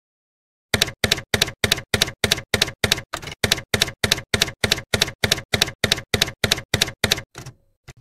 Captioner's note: typewriter keys clacking